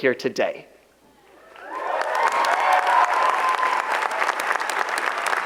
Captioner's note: audience applauds